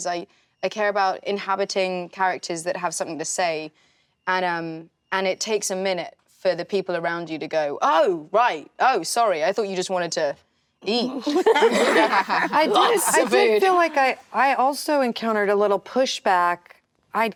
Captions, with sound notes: "I care about inhabiting characters "that have something to say." And it takes a minute for the people around you to go, "Oh right, oh sorry, I thought you just wanted to eat." (actresses laughing) Lots of food. - I did feel like I also encountered a little pushback.